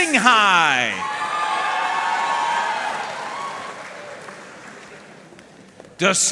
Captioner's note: audience cheering and applauding